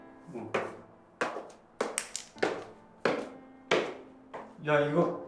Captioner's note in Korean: 진희 화난 발걸음 소리